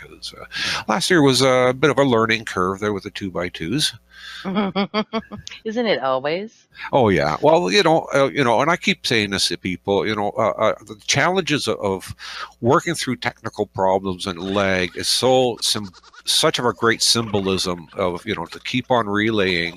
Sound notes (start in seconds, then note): 4.2 laughs